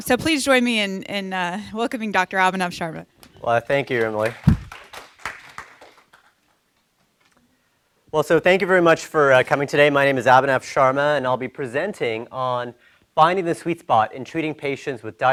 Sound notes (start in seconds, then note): 3.7 people applauding